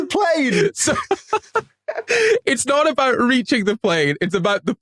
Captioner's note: laughs